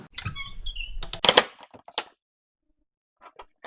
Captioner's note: door creaks